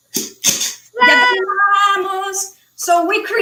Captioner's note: speaking foreign language